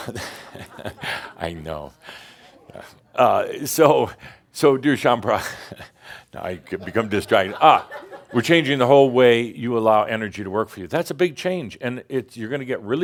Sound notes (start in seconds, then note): 0.0 Adamus chuckles; 5.8 more chuckles